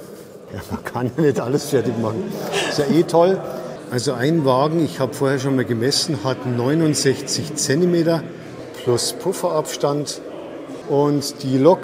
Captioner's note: laughs